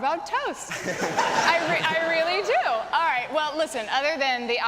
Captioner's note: laughing